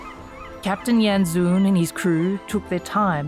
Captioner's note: seabirds calling